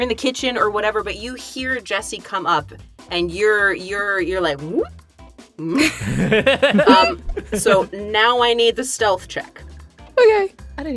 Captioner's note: EVERYONE laughs